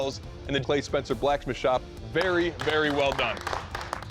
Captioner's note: applause